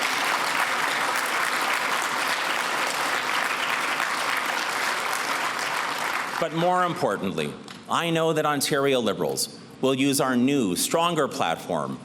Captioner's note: cheers and applause